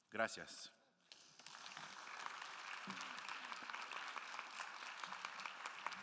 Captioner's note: audience applauding